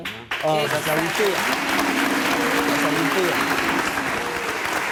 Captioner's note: audience clapping